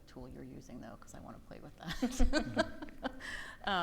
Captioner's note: laughs